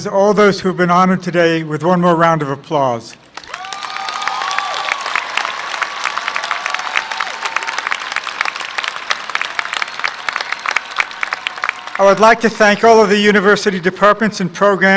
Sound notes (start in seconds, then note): 3.2 applause